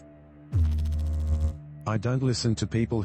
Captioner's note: electrical noise